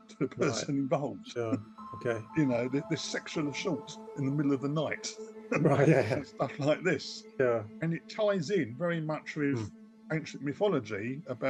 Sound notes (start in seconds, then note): 5.5 chuckles